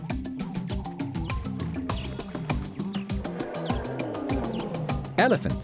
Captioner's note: elephant trumpets